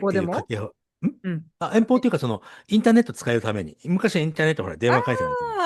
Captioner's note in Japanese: 咳払い